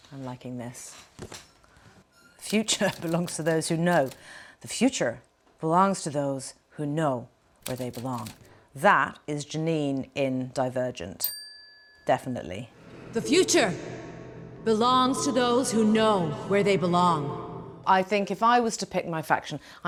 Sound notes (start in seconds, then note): 11.2 bell ringing